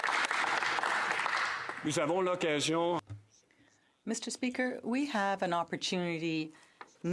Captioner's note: some Applause